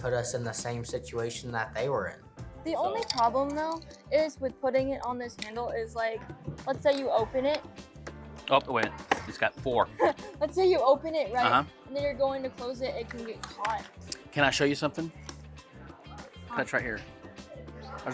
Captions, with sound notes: because that put us in the same situation that they were in. The only problem though with putting it on this handle -is let's say you open it-- -Oh wait, it's got four. [laughs] Let's say you open it, and then you're going to close it, it can get caught. Can I show you something? That's right here.